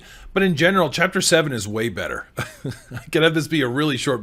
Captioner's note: chuckles